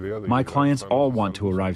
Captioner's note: through translator